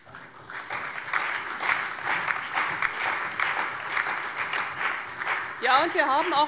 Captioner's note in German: Allgemeiner Beifall